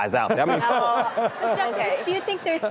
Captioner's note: crowd laughs